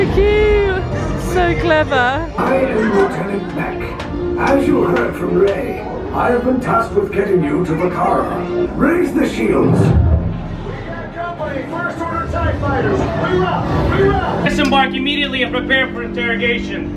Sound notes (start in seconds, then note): 9.9 ship roaring